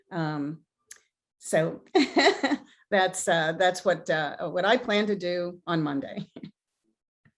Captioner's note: chuckles